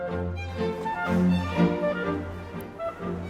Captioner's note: tickatickatickatickaticka